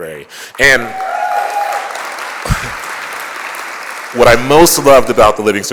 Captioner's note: applause